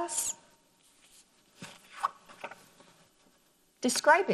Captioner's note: paper rustles